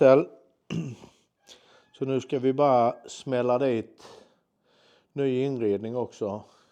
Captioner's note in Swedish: harklar sig